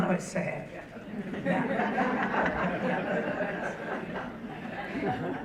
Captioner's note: audience laughing